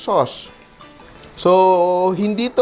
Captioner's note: sizzles